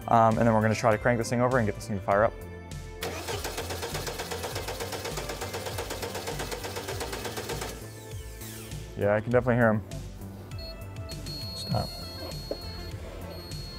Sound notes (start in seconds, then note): 3.0 engine chugging; 11.0 sensor pinging